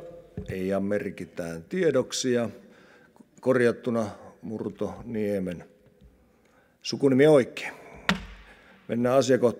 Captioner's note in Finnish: kopauttaa nuijaa